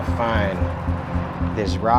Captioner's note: traffic roars